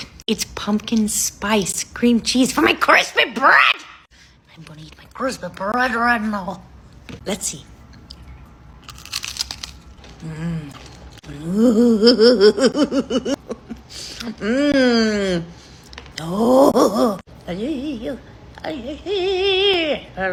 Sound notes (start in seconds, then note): 8.8 bread crunching; 11.6 chuckling